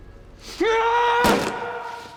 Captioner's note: screams